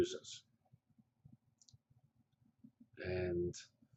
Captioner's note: pause